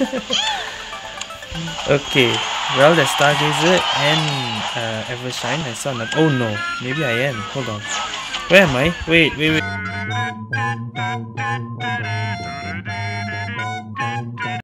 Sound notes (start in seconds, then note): 0.0 laughs